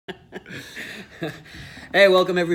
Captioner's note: both laugh